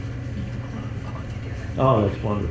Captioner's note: chuckles